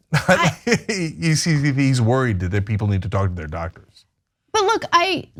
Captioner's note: laugh